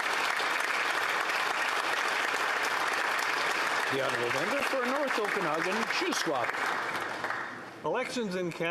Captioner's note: applause